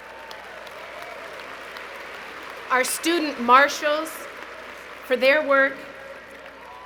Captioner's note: applause